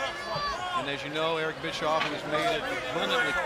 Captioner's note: crowd chatter